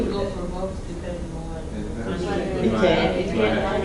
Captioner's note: classroom chatter